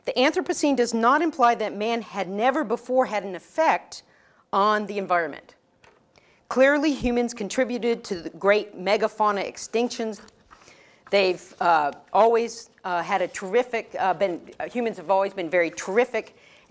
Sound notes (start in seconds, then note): none